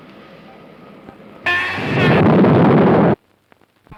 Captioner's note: boom